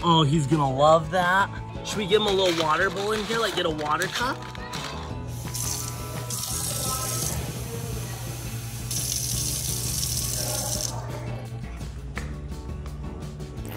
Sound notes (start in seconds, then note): 5.4 running water